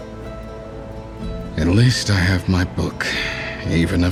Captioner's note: suspiro